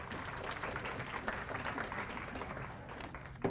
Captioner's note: applause